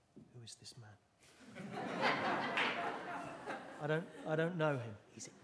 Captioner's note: whispers